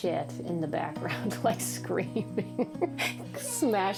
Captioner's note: laughing